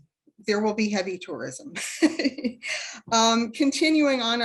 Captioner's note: laughs